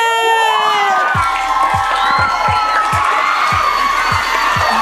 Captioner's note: applause